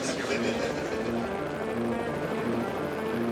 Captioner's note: laughing; helicopter whirs; suspenseful music